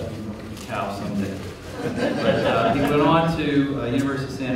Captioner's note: laughter